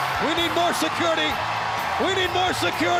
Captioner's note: crowd chattering